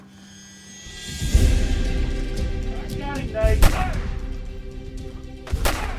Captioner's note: dramatic orchestral music; guns firing